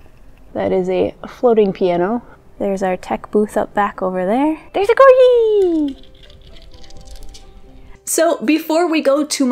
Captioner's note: nails on linoleum